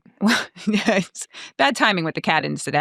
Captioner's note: chuckling